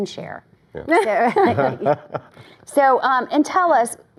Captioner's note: laughter